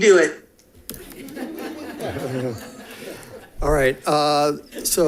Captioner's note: audience laughing